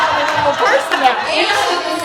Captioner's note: laughter